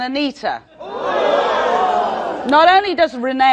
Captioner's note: audience exclaims in disbelief